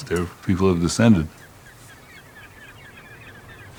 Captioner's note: seagulls cawing